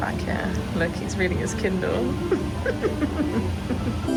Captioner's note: giggles